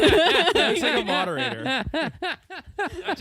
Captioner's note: laughter